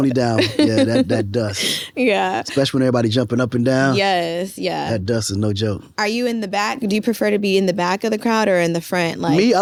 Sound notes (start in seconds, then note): 0.2 laughs